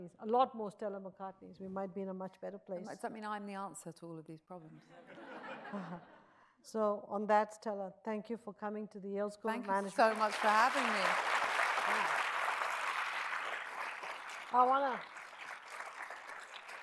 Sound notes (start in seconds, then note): 5.2 audience chuckles; 9.8 audience applauds